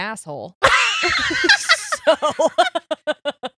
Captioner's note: laughing